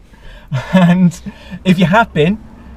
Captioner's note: laughing